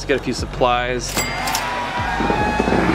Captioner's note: cash register ringing; people cheering